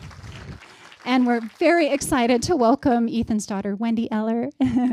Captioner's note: applause